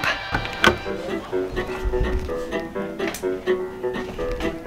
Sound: door opens

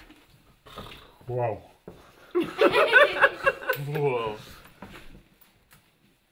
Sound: laughter

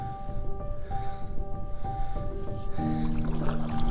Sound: heavy breathing

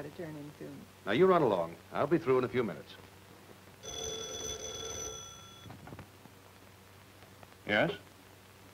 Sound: phone rings

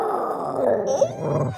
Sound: howl

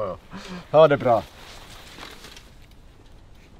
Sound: in Swedish

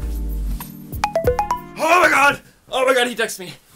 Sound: pone rings

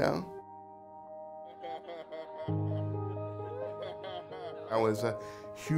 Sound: laughing

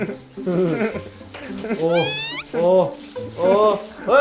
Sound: crying

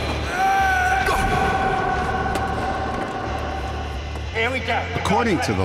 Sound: shouting

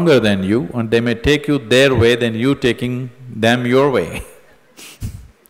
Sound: laughs

